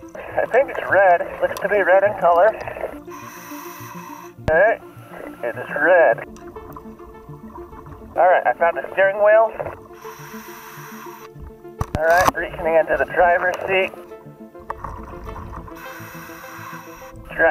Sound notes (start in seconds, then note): 6.5 water bubbling; 9.9 inhaling air; 15.7 inhaling air